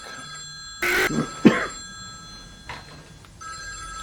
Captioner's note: glitch sound